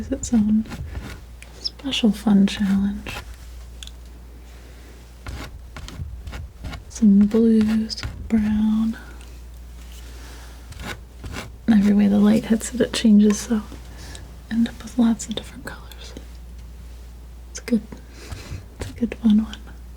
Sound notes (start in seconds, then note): 3.1 tapping; 8.7 tapping